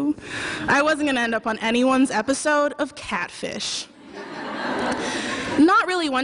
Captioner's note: laughter